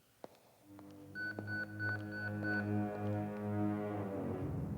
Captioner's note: pager beeps